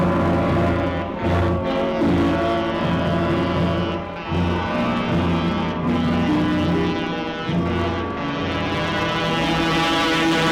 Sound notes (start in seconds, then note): 1.0 train whistle